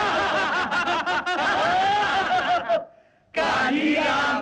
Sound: laughing

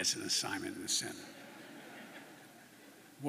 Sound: laughter

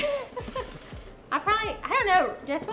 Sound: laughing

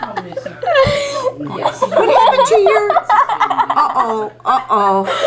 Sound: laughter

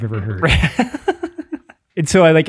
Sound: laughs

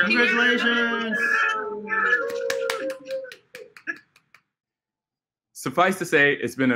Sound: applause

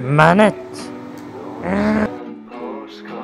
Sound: screams in anger

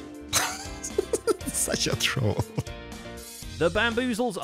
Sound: laughing

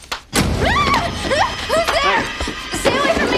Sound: Meg screams

